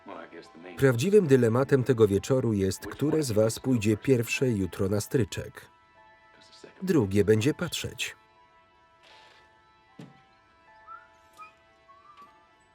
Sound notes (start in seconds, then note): 8.4 Tom whistling